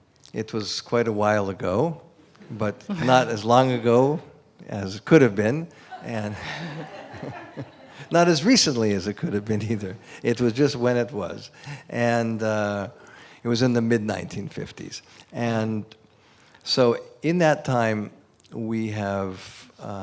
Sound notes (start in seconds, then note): 5.8 laughter